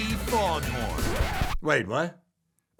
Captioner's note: record scratches